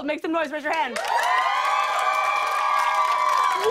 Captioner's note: cheers and applause